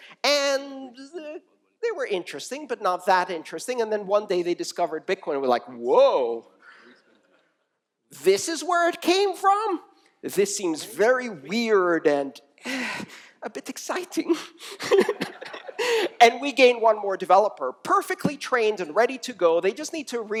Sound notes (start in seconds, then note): 14.7 laughter